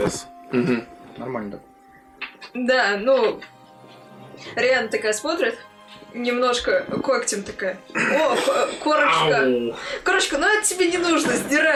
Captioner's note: sounds of pain